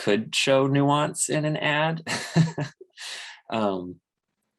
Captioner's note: laughs